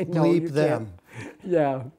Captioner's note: laughter